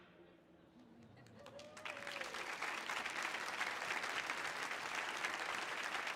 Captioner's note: audience applauding and whooping